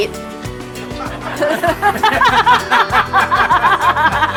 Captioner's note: group laughing